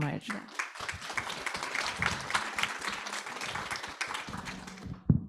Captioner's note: audience applauds